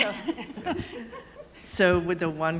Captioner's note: laughter